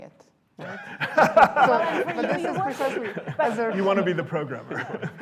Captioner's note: laughter